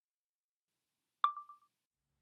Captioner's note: chime of phone recorder being turned on